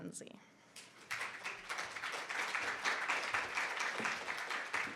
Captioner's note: audience clapping